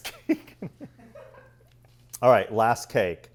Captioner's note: laughs